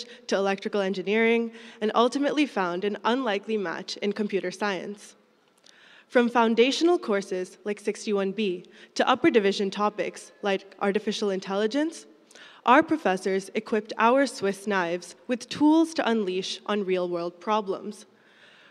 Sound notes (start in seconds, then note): none